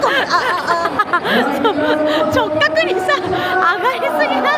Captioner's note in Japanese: 笑い